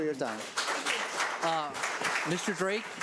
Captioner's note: audience applauds